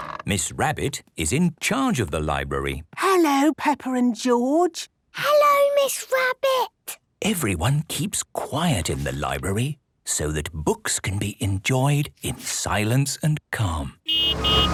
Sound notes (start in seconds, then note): 2.8 whispering